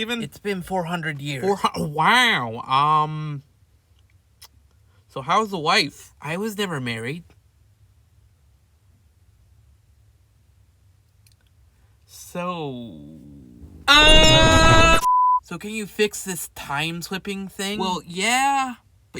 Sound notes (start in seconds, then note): 7.5 awkward silence